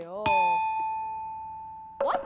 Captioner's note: ding!